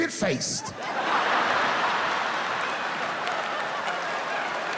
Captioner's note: audience cheering